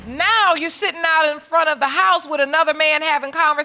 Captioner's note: none